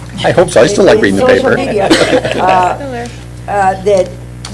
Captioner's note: laughter